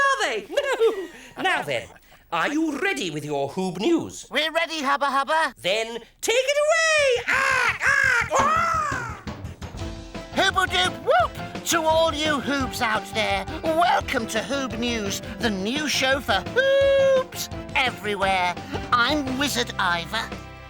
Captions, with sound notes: are they? (all laugh) Now then, are you ready with your Hoobnews? - We're ready Hubba Hubba. - Then take it away! (screeches like Hollowbird) - Hooble Doop Whoop! To all you Hoobs out there. Welcome to Hoobnews, the new show for Hooobs everywhere. I'm wizard Iver.